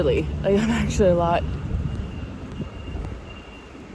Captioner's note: truck beeps in distance